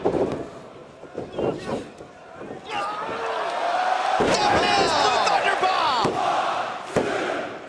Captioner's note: crowd cheering